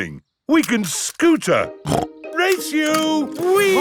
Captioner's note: snorts